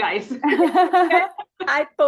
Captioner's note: panelists chuckle